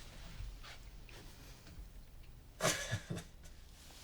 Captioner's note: laughs